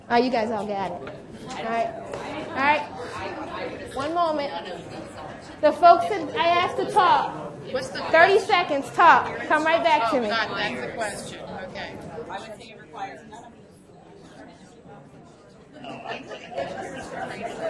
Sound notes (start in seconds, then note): 10.9 mixed chatter